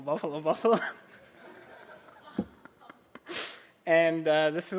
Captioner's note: laughter